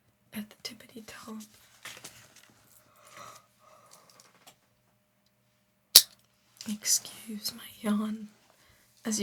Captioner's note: silence